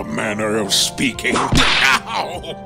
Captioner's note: whip crack!